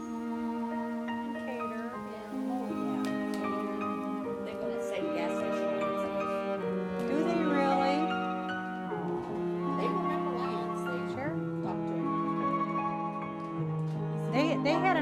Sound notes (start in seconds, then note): 0.6 background conversation; 6.6 voices of in distance